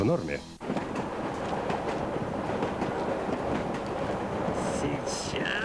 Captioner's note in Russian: шум поезда